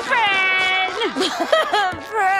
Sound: laughing

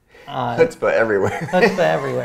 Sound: laughs

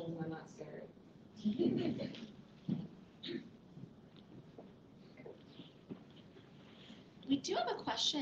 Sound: laughter

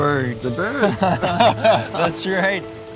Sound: laughing

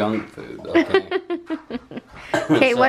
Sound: laughs

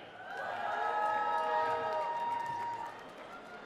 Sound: cheering

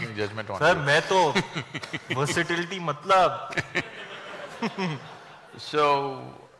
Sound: speaks in Hindi – not transcribed

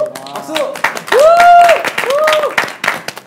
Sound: applause

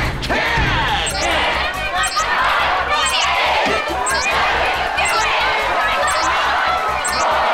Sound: cheering

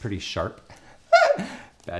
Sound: laughs

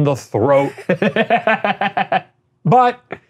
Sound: laughing

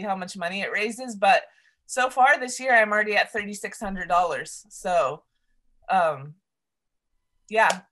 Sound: claps

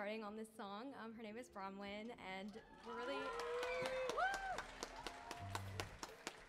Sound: audience cheering

